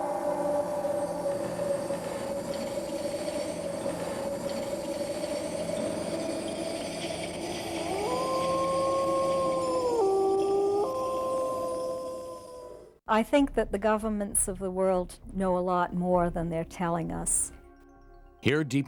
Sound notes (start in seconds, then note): 0.2 wind blows; 7.6 wolf howls; 18.7 voiceover